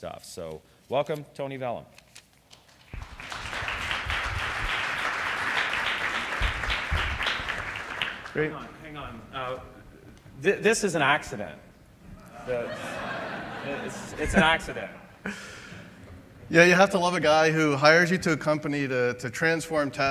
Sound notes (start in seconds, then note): 2.7 applause; 12.2 laughter